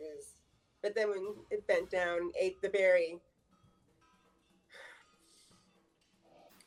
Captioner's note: exhales